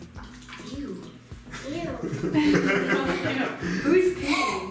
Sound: laughing

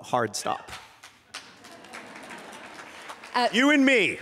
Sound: applause

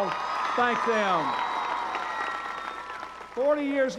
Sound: applause

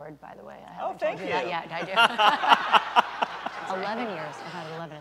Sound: laughter

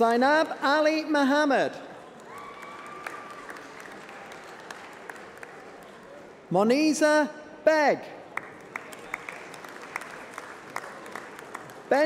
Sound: applause

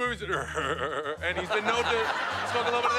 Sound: imitates laugh

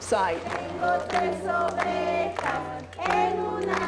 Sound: non-english speech

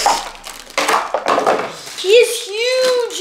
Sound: plastic rustling

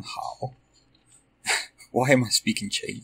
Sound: laugh

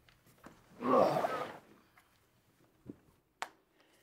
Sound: grunts

